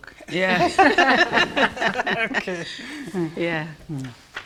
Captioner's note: laughing